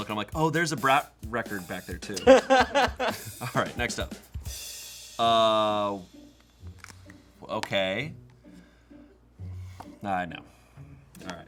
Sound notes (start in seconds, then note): 2.1 laughs